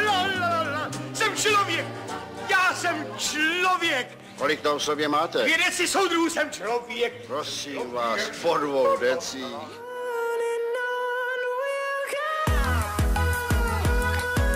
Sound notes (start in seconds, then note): 2.5 drunk speech